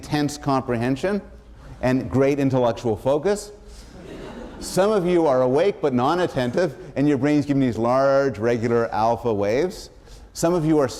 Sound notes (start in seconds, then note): 3.8 laughter